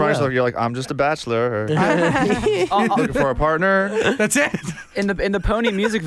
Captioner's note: laughs